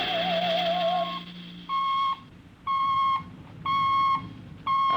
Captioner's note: beeping